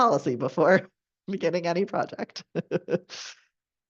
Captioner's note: chuckles